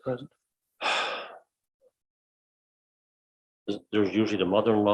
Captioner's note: exhales